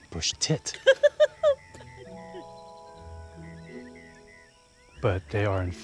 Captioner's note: laughs